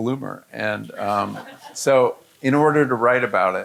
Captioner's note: audience laughing